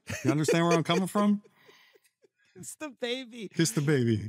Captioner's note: laughing